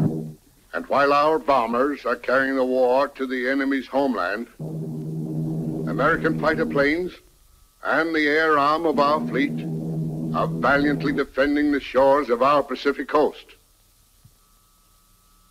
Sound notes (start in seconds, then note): 4.6 plane engines revving